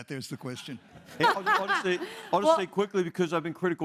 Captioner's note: laugh